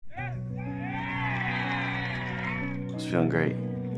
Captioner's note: spectators cheering; gentle music